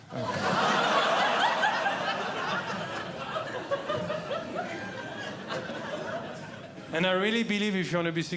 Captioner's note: audience Laughing